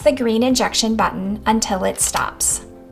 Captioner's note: pen clicking